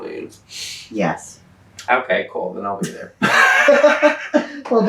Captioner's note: laughter